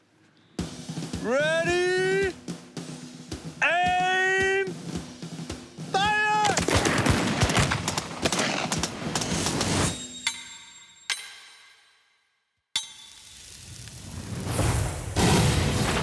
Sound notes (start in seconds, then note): 5.9 gunshots; 15.0 slow-motion gunfire